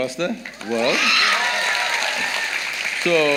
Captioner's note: applause